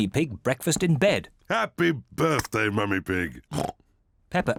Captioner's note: oinks